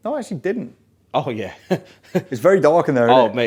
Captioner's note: chuckling